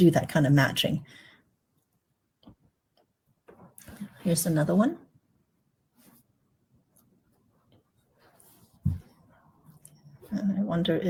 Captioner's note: pause for 6 seconds